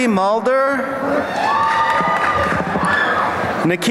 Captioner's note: cheering